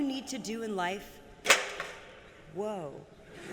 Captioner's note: clacking